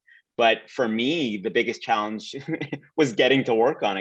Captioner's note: laughs lightly